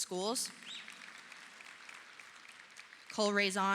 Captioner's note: audience applauding